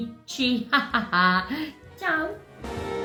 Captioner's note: laughs